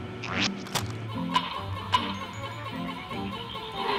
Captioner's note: rock clacks